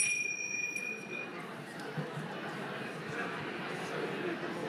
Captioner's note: bell ringing; babble of voices